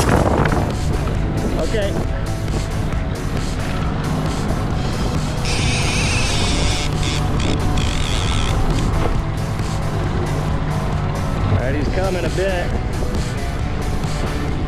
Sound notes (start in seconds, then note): 5.4 reel clicking